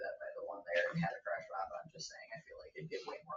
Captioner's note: speaks distantly